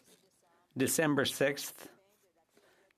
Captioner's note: speaking French